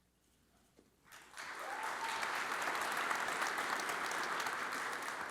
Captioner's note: audience applauds